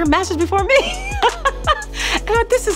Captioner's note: laughs